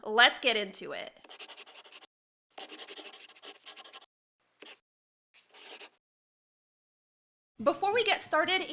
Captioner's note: the sound of a pen scratching. LOGO